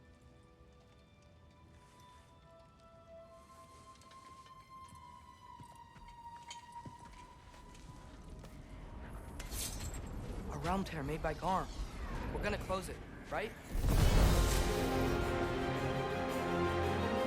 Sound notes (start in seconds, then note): none